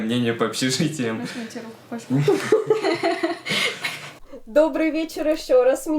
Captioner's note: laughter